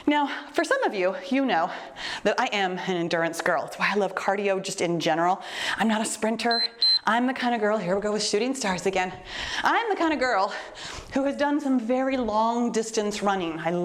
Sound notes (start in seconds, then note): 6.4 timer beeps